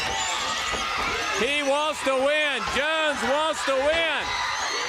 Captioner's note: crowd cheering